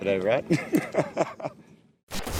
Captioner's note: men laughing